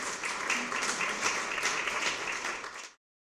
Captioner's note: applause